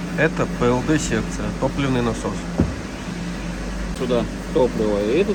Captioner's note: fuel pump